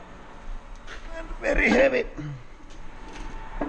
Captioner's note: grunting